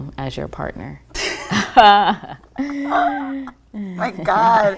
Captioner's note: laughing